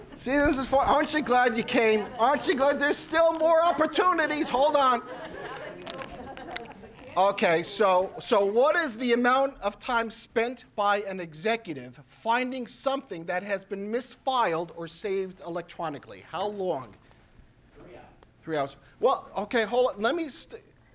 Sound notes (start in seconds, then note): 5.1 audience talking and laughing